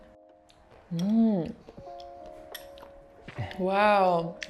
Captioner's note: chews